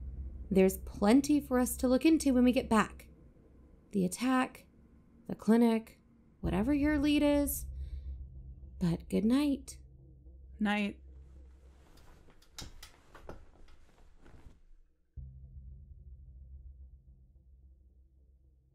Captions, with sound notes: STEVIE There’s plenty for us to look into when we get back. The attack, the clinic, whatever your lead is… But, good night. ROBIN Night. (blankets and bed rustling) (music fades out)